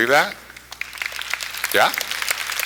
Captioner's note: applause